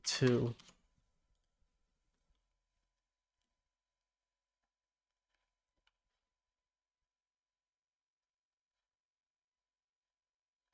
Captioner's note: silence